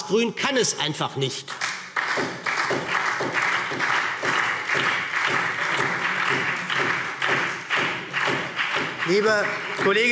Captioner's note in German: Beifall SPD